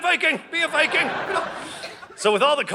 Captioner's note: audience laughing